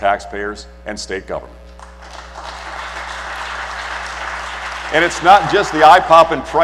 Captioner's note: applause